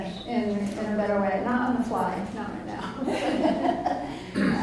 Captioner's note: laughs